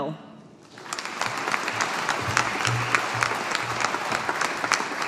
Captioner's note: audience applauding